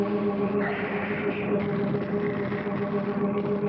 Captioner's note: hissing